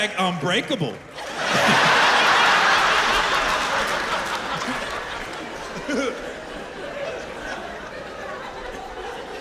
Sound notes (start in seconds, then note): 2.7 laughter